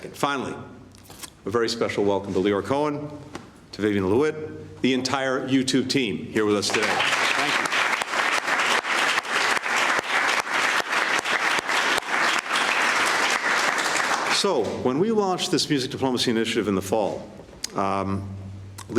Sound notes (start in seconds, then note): 12.8 applause